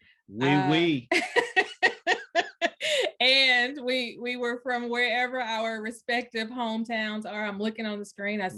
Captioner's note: laughs